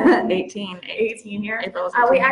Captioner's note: chuckles